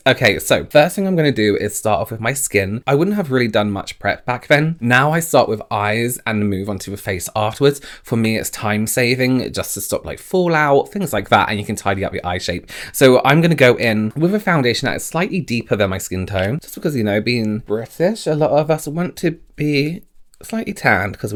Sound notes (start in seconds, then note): none